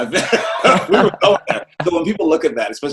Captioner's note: both chuckle loudly